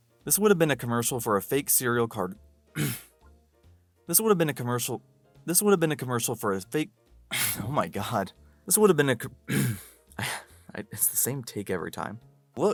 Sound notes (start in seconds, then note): 2.7 clears throat; 7.3 sigh; 9.5 clears throat; 9.6 sigh